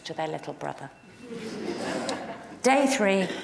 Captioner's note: audience laughing